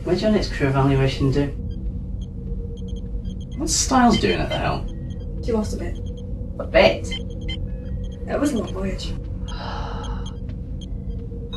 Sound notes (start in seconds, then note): 9.5 sigh